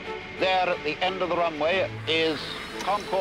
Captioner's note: radio voice